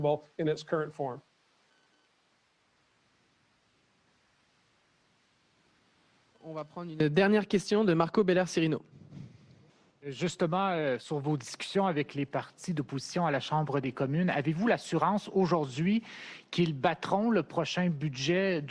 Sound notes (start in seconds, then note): 5.7 speaks French; 10.0 speaks French